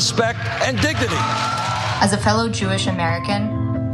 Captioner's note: applause